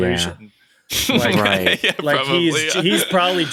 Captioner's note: laughs